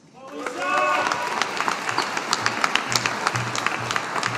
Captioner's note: audience applauding